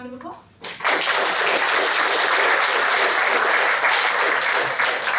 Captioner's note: applause